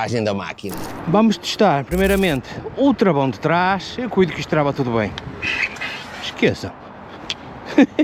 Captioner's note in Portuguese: risadas